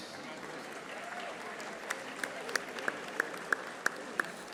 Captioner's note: audience applauding